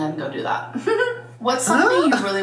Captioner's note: giggling